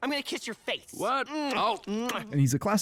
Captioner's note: smooches